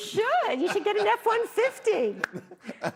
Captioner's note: laughter